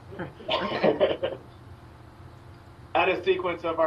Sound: giggling

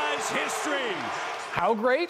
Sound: cheers and Applause

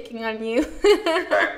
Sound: laughs

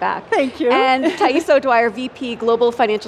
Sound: laughs

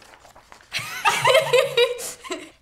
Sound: laughs

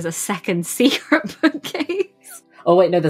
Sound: laughs

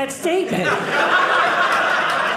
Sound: audience laughing

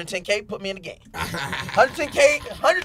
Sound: laughing

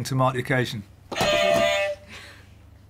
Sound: clang; beep beep

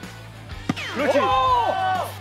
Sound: pow

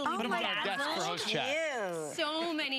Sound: chatter

